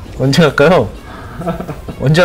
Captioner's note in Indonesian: Tertawa